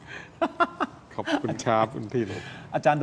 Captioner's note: laughs